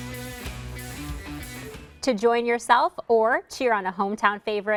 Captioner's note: cheers